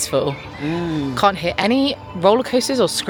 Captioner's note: grunting